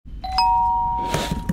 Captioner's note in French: Ding dong